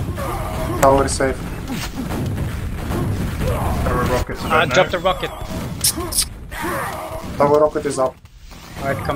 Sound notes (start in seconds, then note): 5.8 tsk tsk